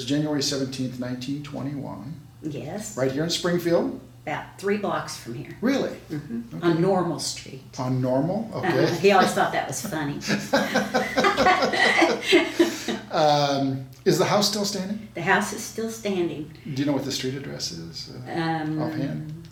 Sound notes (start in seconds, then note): 8.8 laughs; 9.8 both laughing